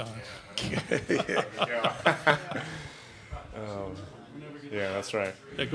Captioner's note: laughing